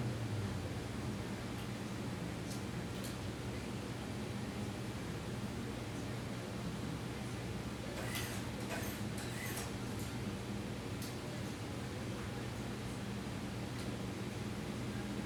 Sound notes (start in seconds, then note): 6.2 HVAC sounds and the occasional whirr of a sewing machine